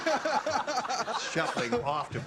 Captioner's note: laughter